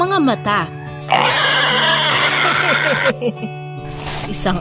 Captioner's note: pig screamed